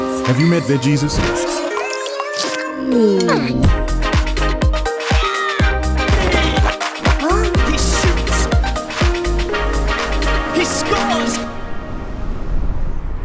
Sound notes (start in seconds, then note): 1.0 satisfied groan; 6.6 Squidward steps